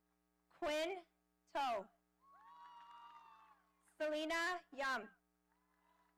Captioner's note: audience cheering